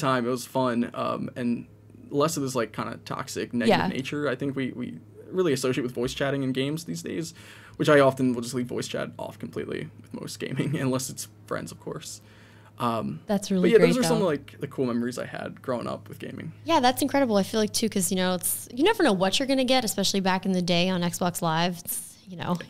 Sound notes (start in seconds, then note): 10.4 chuckles